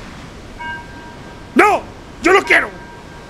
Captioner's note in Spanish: Pitido